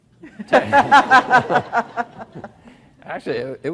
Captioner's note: everyone laughs